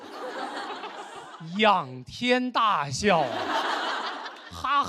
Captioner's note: laughing